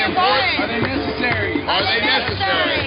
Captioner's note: voiceover